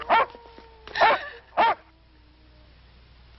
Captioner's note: dog barking